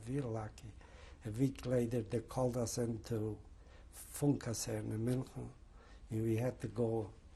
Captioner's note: german